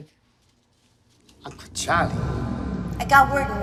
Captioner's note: voice echoes; distortion; voice echoes